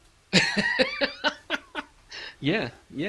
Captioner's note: laughing